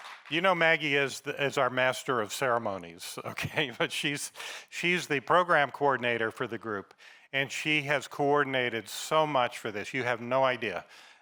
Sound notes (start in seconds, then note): 3.2 laughs